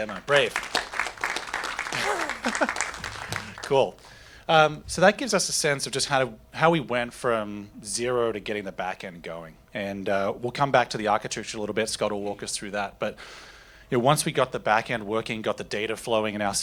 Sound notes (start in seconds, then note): 0.0 applause